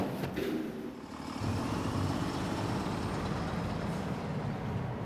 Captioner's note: truck motors revving